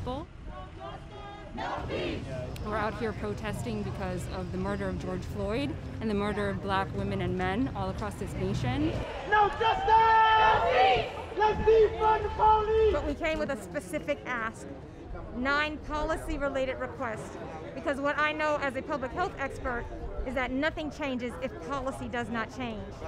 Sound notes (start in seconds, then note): 0.4 chanting; 8.8 chanting